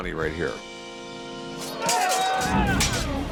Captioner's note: battle sounds